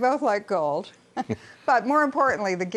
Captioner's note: laughter